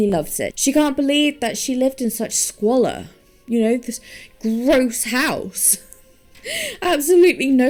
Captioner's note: laughing